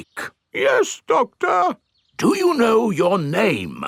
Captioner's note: in teddy's voice; in normal voice